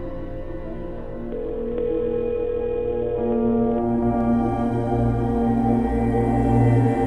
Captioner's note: high intensity music; dial tone ringing